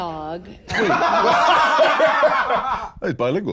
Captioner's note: both laughing